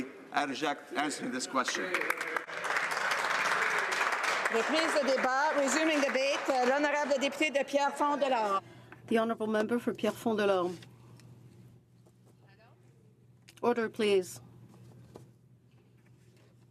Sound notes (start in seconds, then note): 10.9 speaking French